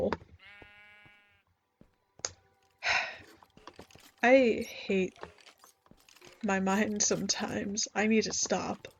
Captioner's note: sighs